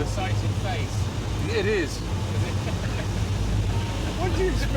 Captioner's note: both laughing